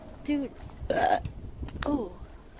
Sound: Destiny burps

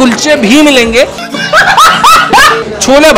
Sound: laughing

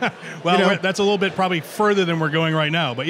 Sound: laughs

